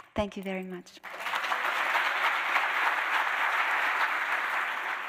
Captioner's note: audience clapping